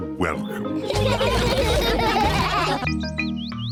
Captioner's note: all laugh